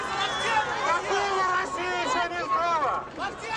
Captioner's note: speaking Russian